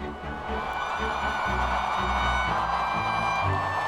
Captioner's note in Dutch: menigte juicht